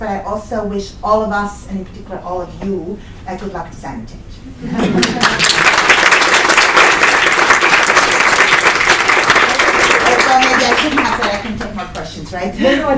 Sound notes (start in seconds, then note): 5.0 applause